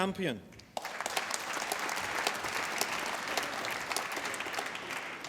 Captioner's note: applause